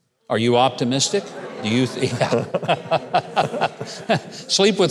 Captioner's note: crowd laughing